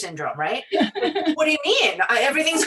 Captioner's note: laughing